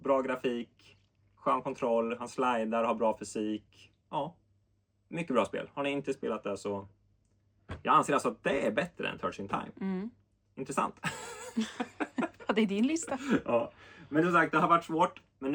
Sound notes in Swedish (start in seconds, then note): 11.0 skratt